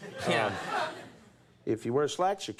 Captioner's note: audience laughs